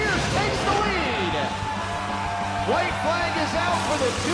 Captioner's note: crowd cheering